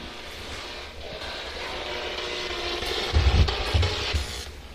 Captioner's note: static buzzing